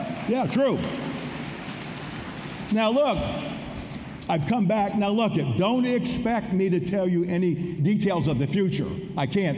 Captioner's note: applause